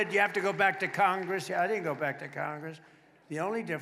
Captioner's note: applause